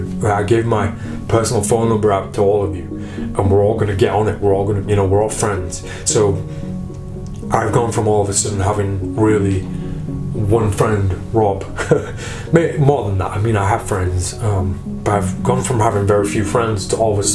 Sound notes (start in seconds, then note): 11.6 laughing